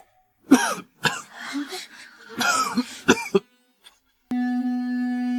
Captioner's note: cough, cough, cough